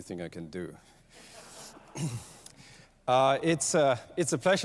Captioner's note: laughter